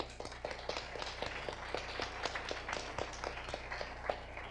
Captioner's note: audience applause